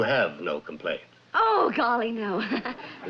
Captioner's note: laughs